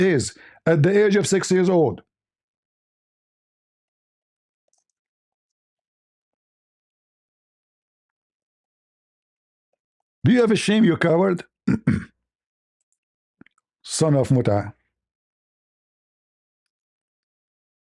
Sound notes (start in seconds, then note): 11.6 berdehem